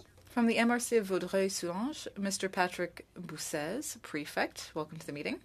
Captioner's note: speaking French